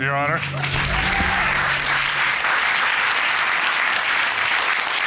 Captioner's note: cheers and applause